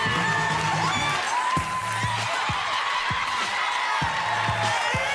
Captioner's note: cheers and applause